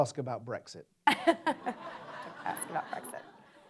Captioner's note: audience laughs